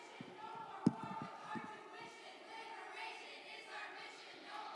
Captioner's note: students chanting